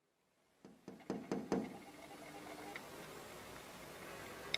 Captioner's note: tapping on window